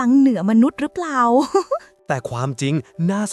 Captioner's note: chuckles